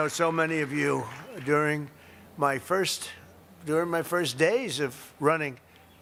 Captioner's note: applause